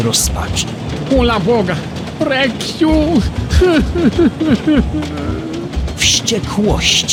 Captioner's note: sobbing